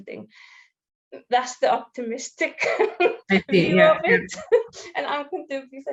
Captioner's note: laughs